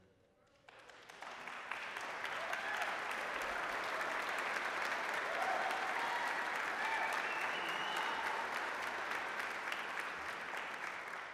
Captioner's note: applause